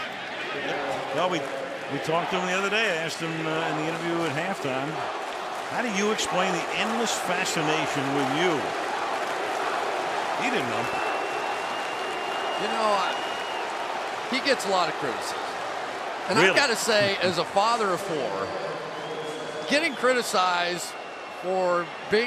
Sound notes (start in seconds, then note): 5.4 cheering